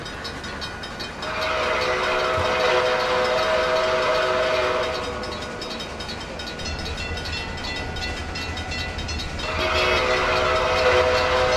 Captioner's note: C&O Greenbrier whistle